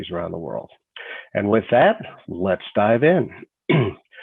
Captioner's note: clears throat